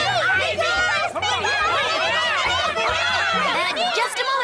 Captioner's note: all shouting